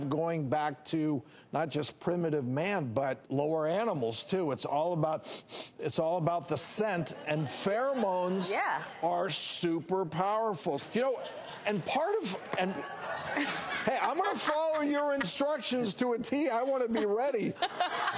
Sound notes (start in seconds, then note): 5.2 sniffs